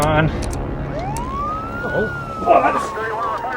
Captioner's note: sirens wailing